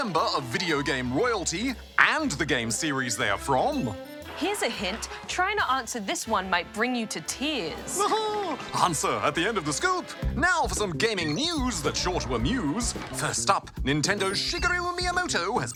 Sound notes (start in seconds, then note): 8.0 chuckles